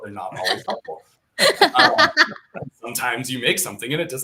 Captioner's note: laughter